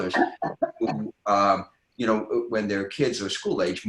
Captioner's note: laughing